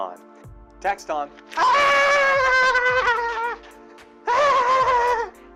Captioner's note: wails dramatically